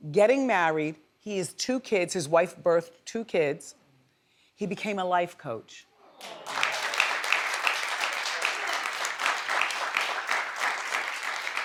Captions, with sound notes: getting married, he has two kids, his wife birthed two kids, he became a life coach. (audience applauds)